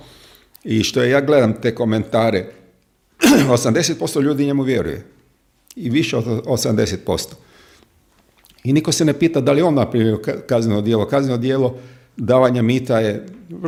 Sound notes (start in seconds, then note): 3.2 coughs